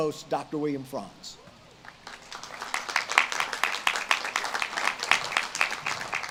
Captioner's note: audience claps and cheers